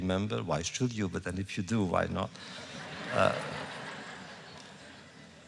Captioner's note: laughter